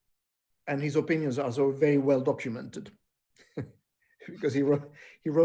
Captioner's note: laughing